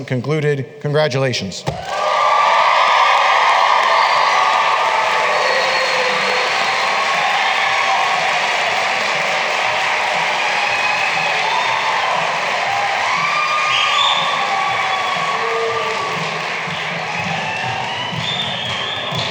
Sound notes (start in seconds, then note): 2.1 cheering and applause